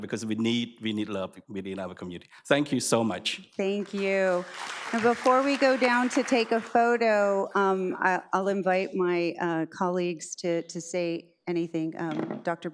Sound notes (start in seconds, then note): 3.8 audience applauds